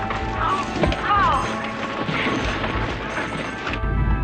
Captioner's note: groaning